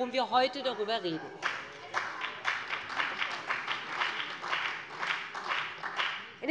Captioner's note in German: Beifall bei dem BÜNDNIS 90/DIE GRÜNEN und der CDU